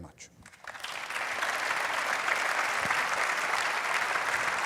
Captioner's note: audience applauding